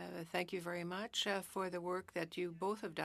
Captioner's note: speaking french